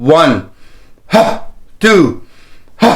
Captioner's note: exhales